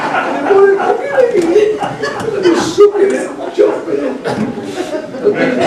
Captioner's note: laughing